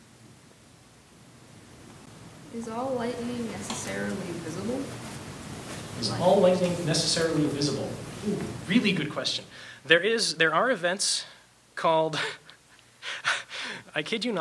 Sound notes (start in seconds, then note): 2.8 voiceover; 13.2 laughs